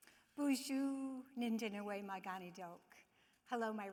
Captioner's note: speaking in foreign language